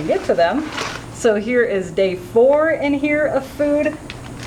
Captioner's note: laughing